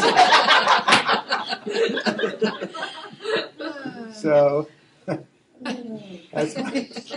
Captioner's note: laughing